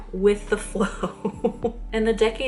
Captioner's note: chuckles